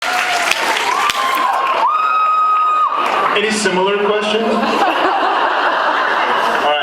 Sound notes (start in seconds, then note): 0.0 cheers, applauds; 4.4 laughs